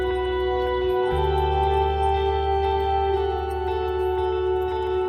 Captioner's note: dog tags jingling; dog claws clicking; dog tags jingling